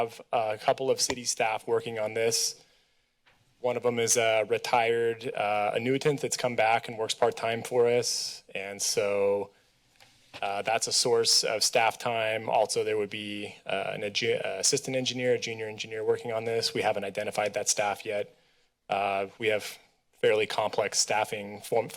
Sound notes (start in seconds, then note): none